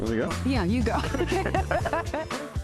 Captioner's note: both laugh